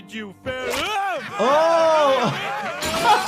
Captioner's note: group laughing